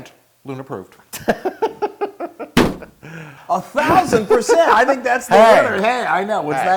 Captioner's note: laugh